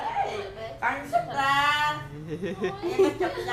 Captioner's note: laugh